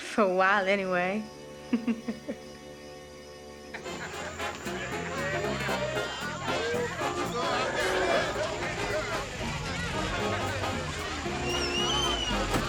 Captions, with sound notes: for a while anyway. (giggles) (lively music plays in hall) (people chattering loudly) (engine revs)